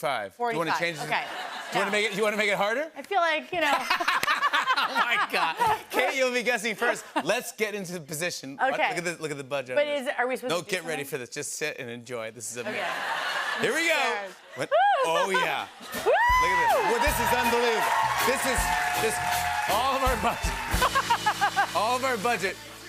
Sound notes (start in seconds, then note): 3.7 laughter